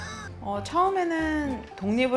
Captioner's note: chewing on a dog bone as we speak